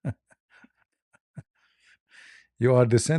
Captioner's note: ketawa